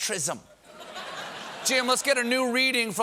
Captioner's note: laughter